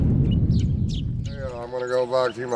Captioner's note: dramatic whooshing; birds chirping